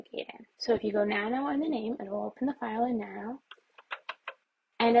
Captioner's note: keyboard keys pressed